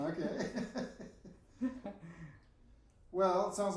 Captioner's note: both laughing